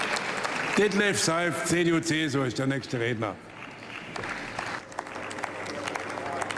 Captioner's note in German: Beifall bei der CDU/CSU